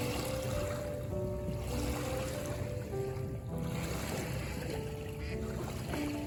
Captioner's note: peaceful waves~